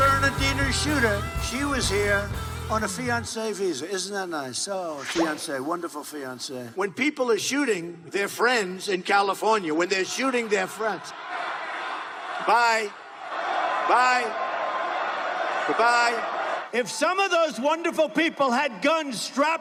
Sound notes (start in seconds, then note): 12.3 shouting